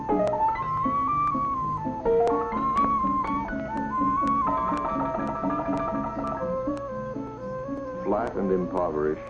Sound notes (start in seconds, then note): 0.0 classical music playing in the background; 0.9 men talking and sitting down on a bench